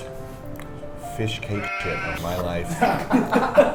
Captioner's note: bleet